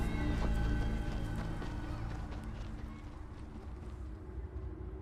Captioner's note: footsteps crunching